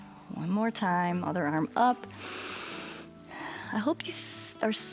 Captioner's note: inhales